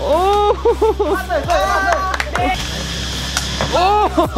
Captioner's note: cheering